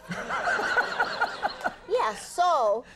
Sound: audience laughing

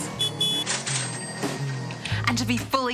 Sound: car horn honks

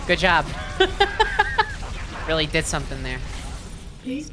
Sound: laughing

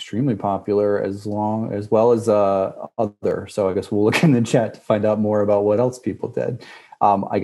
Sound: laugh

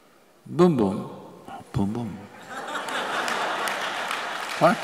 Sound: laughter

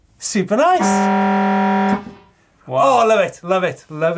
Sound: siren rings

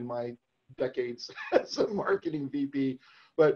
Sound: laughs

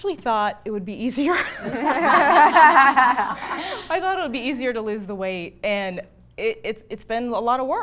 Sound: laughs

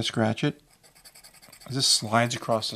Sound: metal scraping

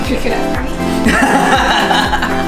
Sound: laughs

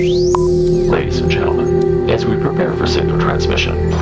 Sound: radio voice 1

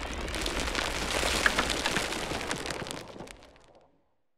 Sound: falling rubble

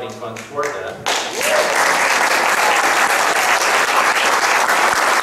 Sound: audience clapping

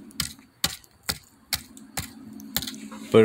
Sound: stick poking into the fire

